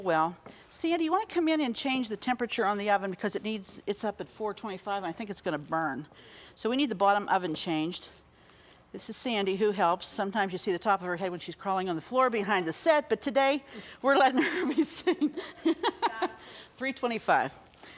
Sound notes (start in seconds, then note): 14.2 laughs